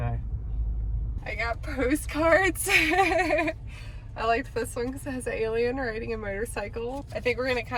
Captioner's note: laughs